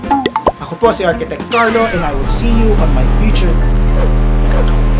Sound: fly buzzing

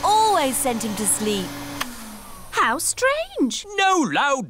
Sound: whirring stops

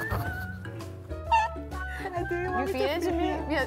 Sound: laughing

